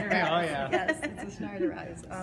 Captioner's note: laughter